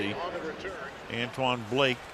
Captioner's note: pa announcement